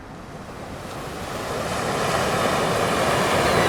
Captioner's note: waves crashing